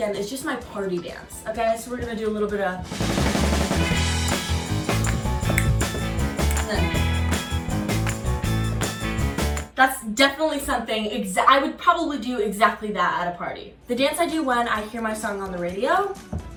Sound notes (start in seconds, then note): 2.8 lively music; 4.2 fingers snapping